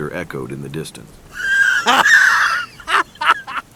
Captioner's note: evil laughter